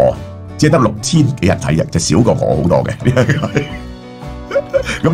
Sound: laughter

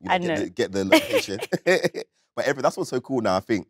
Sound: Letitia and John chuckling

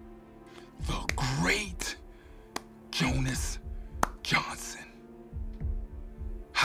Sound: clapping

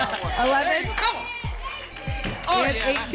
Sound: audience shouting numbers

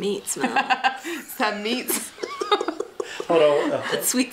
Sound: laughing

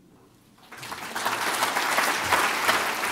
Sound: applause

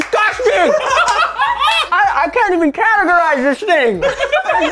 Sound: laughter

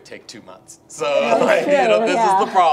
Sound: group laughs

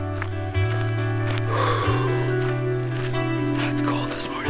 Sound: exhaling

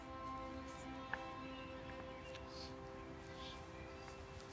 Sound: sighs

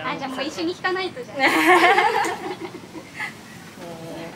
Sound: laughs

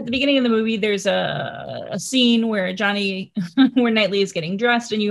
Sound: chuckles

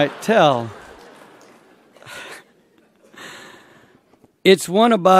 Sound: laughter

